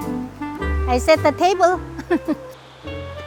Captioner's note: laughs